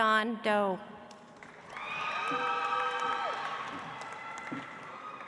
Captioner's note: audience applauds